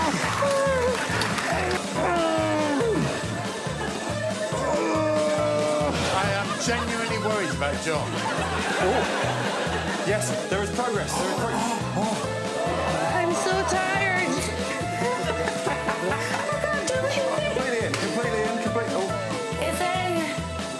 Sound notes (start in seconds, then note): 14.2 John gasping